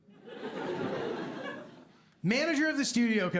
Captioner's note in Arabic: ضحك